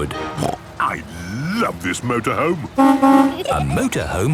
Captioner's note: honking